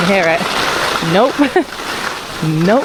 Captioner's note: laughs